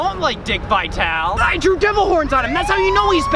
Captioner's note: police sirens blare